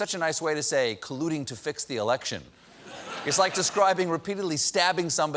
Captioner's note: laughter